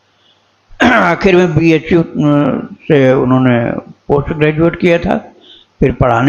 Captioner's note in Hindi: गला साफ़ करने की आवाज़